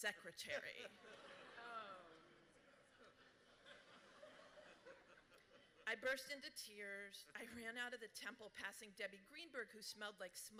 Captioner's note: laughter